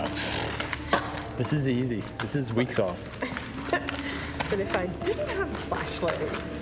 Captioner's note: laughs; laughs